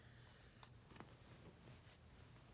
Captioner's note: none